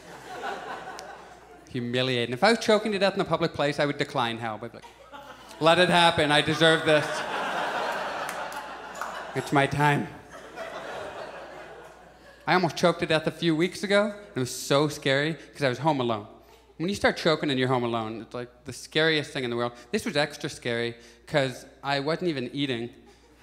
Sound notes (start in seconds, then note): 0.0 audience chuckles; 7.2 audience laughs; 10.5 audience chuckles